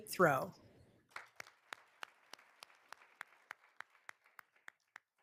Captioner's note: all applauding